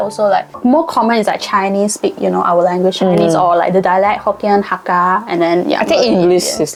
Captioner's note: Mandarin